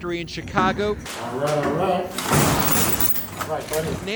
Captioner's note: door rattling